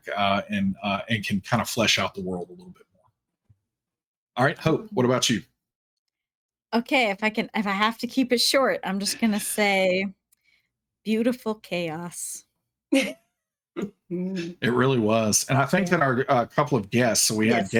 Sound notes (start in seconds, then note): 14.3 chuckling